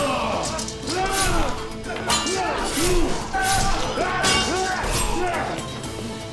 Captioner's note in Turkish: Bağırma sesi; Kılıç sesleri; Bağırma sesleri